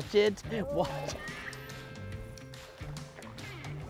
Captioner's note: laughing